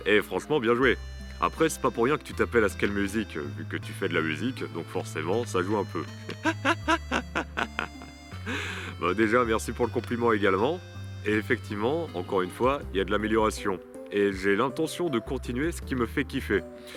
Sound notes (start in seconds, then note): 6.2 laughs